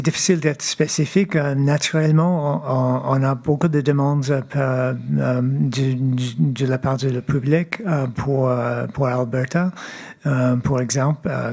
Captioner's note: speaking French